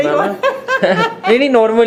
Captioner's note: laughs